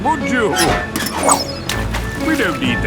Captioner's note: splashes